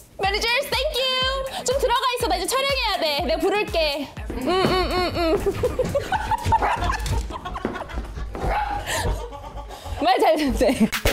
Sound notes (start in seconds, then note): 5.4 footsteps of 530 people / 530 people all move quickly; 6.6 dog-barking sound / The stomach cover manager goes home as well; 8.4 dog-barking sound